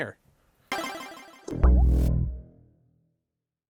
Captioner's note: 8-bit sound effect